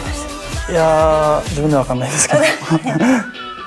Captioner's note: laughs